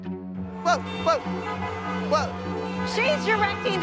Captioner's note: horns honking